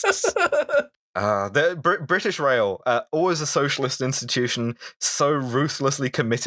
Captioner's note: laughter